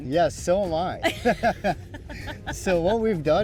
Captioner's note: both laughing